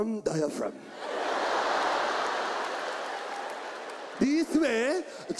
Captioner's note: audience laughs